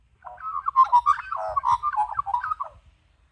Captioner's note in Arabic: غناء طائر العقعق